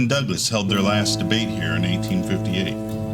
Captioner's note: tugboat horn